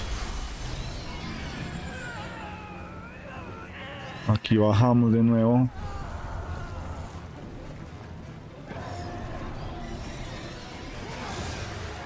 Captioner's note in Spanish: grito